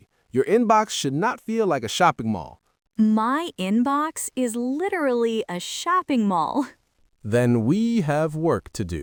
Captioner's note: laughs